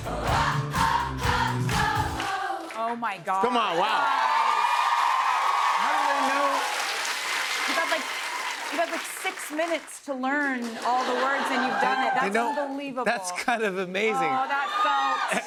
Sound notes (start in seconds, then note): 3.5 cheers and applause